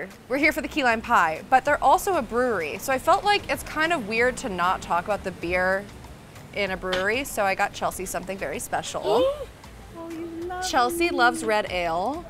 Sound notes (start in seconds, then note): 10.0 gasping